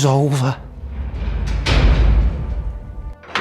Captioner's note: prison doors slam